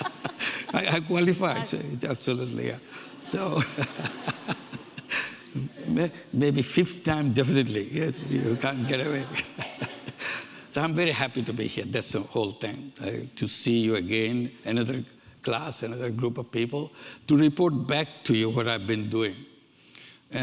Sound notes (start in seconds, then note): 3.0 laughs